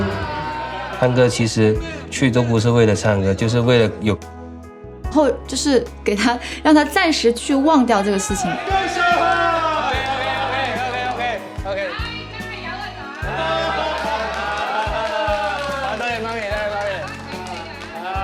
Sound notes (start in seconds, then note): 13.9 all cheer